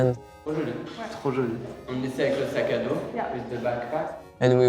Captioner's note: both speaking in a foreign language